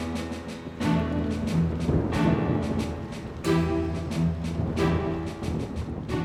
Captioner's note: dramatic music; thunder cracks